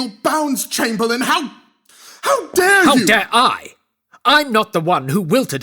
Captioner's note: raises voice